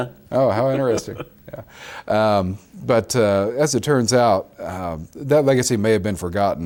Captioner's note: laughs